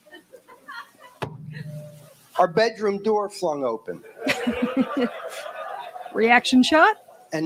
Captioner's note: knocking sound